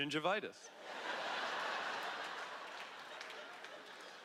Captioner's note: laughter